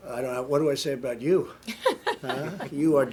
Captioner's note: laughter